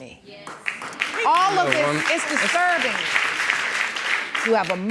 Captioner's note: audience applauding